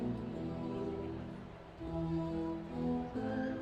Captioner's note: none